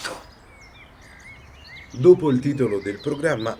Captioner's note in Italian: Cinguettio di uccelli